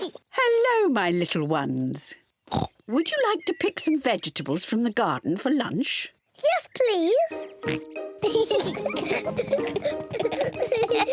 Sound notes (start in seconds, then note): 0.0 laughs; 0.0 oinks; 2.5 oinks; 7.6 oinks; 8.2 both laugh